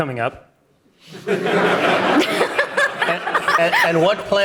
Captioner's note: audience applauding